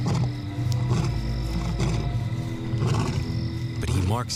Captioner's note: lion growling